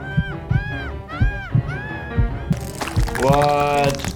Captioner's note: heart pulsing